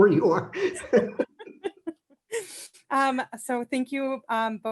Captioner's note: laughing